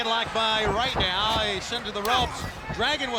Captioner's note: blows thudding